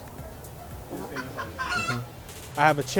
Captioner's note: chicken clucks